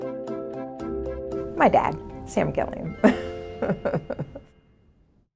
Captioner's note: laugh